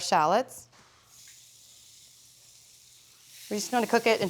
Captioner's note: sizzles